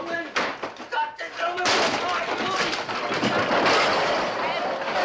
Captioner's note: Lenny Pike busts in accompanied by clattering